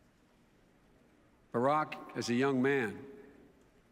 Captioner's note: none